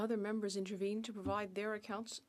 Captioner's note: speaking French